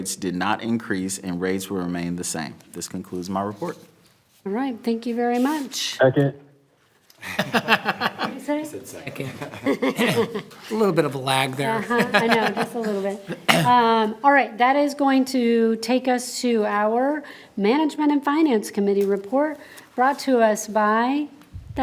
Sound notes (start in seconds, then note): 7.2 board members laugh; 12.3 laughs